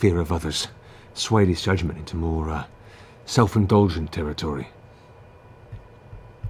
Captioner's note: none